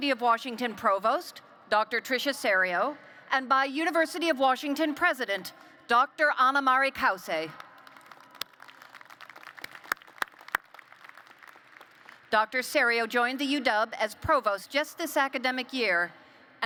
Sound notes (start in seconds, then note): 7.6 applause